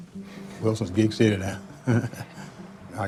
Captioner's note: laughs